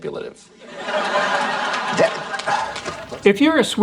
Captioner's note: audience laughs